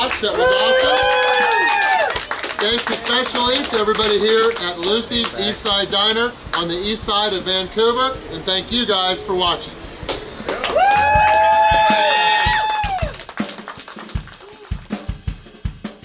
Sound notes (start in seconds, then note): 0.0 cheering and applauding; 10.4 cheering and applauding; 11.9 relaxed drum music